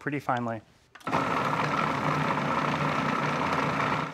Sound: processor whirring

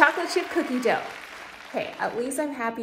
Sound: applause sounds

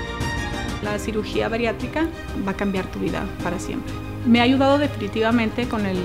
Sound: speaking in Spanish

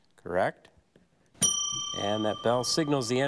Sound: bell dings

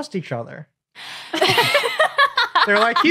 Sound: laugh

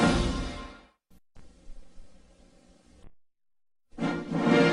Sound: silence; rousing fanfares resuming

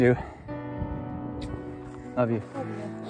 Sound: both smooching

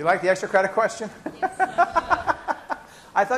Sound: laughs

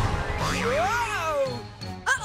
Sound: shouting

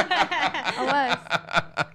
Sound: laughs

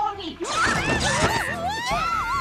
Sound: yelling

